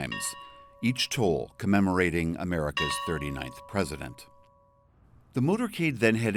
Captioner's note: bell ringing